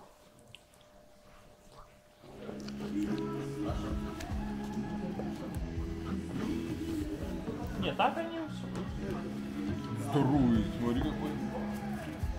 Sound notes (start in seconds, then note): 3.9 radio playing; 8.0 people speaking foreign language